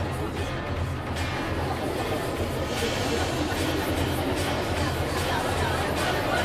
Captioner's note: chatter